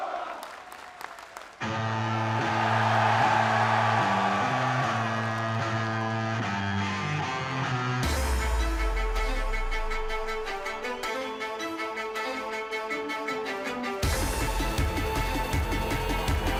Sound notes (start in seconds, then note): 0.0 crowd cheering; 4.0 crowd cheering